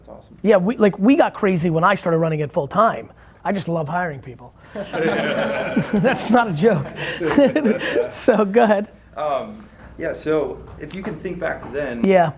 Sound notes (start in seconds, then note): 4.6 group laughing